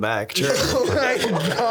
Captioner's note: laughing